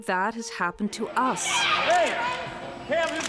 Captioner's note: screaming